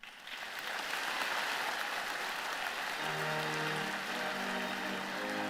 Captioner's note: applause